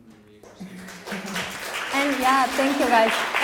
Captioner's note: audience applauding